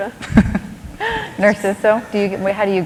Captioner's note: laughter